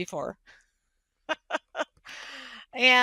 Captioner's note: laughing